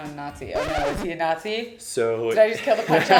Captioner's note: record scratching